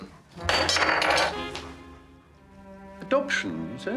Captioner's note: glass clattering